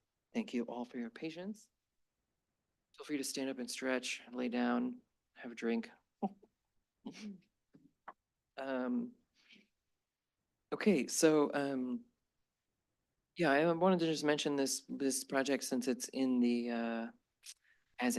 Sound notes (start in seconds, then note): 6.0 chuckles